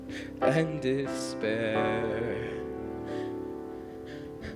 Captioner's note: none